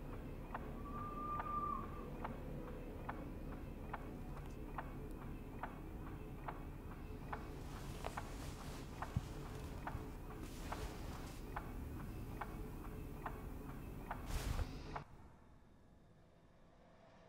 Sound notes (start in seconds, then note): 0.8 distant girl screams; 5.6 strobe lights clicking